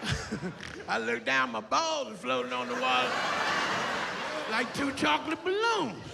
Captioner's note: laughs